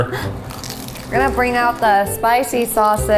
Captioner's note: corn dog crunching